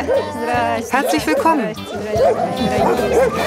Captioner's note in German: Viele Hunde bellen und jaulen